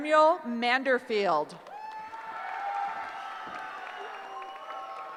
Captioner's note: cheering